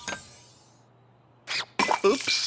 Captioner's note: smash